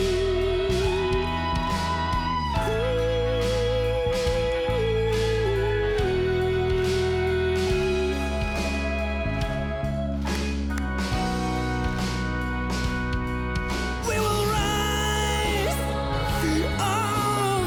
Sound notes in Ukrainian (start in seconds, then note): 2.4 оплески